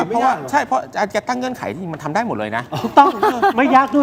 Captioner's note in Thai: เสียงหัวเราะ